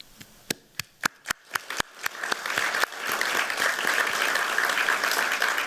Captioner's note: applause